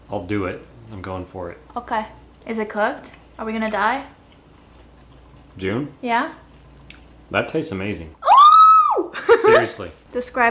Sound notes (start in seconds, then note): 8.2 screams